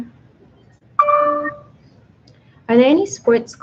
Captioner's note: computer dings